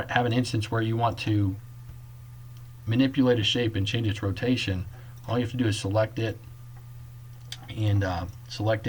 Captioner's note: click